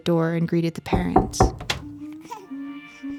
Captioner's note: knocking on door; cooing